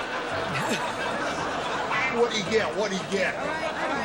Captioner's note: laughter